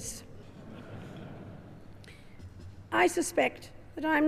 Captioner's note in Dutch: publiek lacht